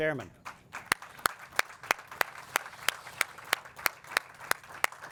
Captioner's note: audience and clap